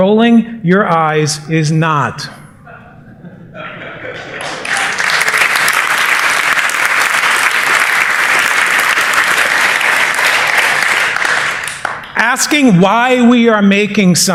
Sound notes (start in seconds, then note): 2.6 laughter; 4.3 applause